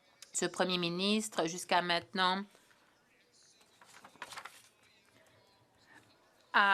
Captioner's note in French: voix de l'interprète